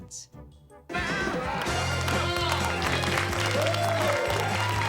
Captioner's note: students cheering